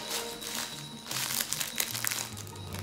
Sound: toy crackling

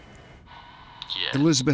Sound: on phone

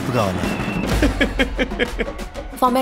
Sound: laughing

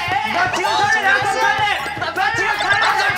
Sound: noise maker

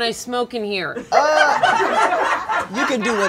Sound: laughter

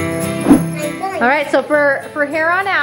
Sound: air whooshing

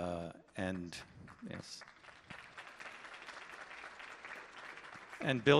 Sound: audience applauding

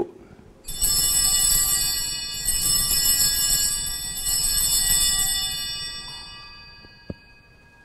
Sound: bells ringing

